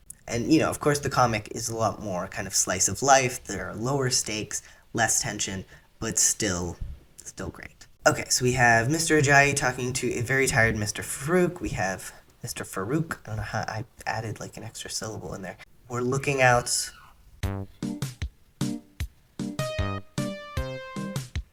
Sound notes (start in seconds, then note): 12.2 enunciates